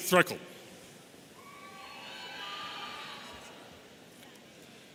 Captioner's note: audience cheering